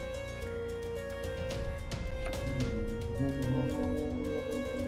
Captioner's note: humming along